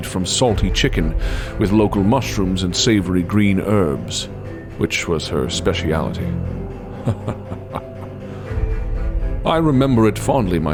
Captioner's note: chuckle